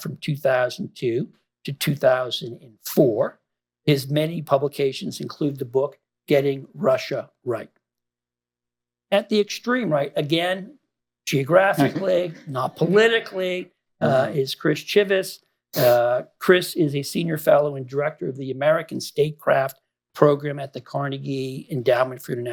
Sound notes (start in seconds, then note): 11.7 laughter